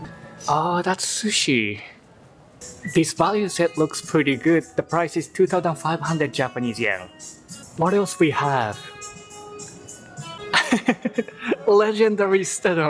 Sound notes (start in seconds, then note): 10.5 laugh